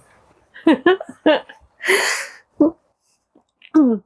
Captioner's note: laughter